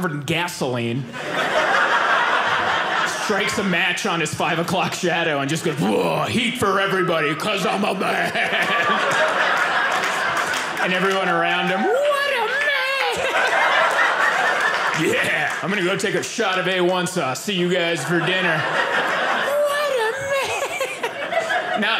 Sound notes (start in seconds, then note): 9.2 audience laughing